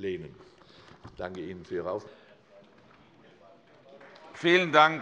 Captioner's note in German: Beifall bei Abgeordneten der CDU